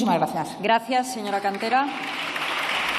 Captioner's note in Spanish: Aplausos